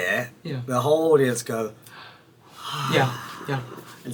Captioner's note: sighs